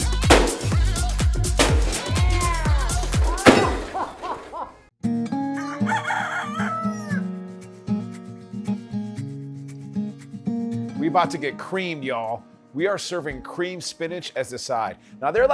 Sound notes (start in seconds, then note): 4.5 laughs; 5.2 country music